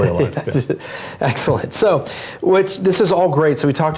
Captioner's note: laugh